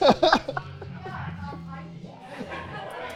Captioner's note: both laughing